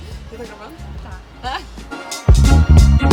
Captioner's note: laugh